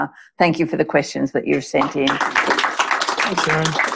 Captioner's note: applause